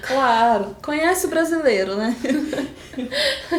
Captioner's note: laughing